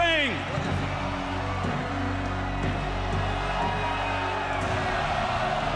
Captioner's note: crowd cheering